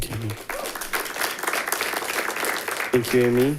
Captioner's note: audience applauding